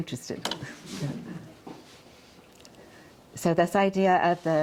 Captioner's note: audience chuckles